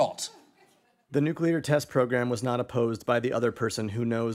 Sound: monotone voice reads on-screen text

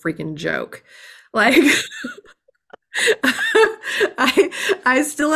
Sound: laughs

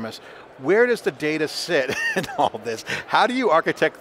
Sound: laughs

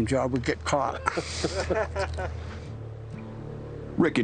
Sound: chuckling

